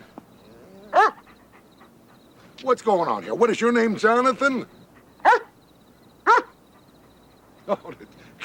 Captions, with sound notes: You're not-- are you? [dog barks] [dog whines]